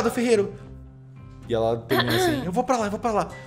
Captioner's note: clears throat